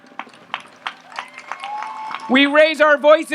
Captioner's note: audience applauds and cheers